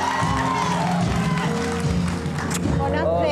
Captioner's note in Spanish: Bullicio